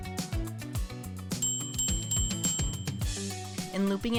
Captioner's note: bell ringing